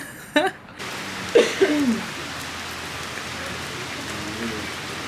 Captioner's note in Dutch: Stromende regen